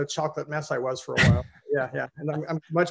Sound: chuckles

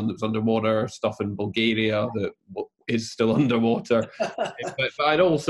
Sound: laughs

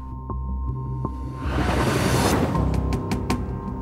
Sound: transition sound

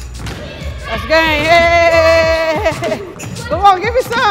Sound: cheering

